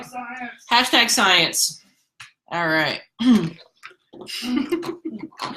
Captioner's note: laughs